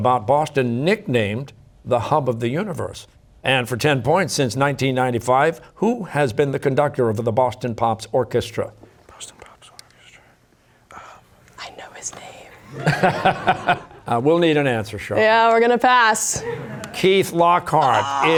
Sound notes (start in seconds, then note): 8.2 whispering; 12.7 laughter